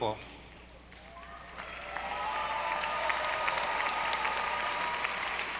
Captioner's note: audience applauding